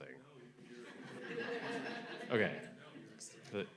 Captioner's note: audience laughing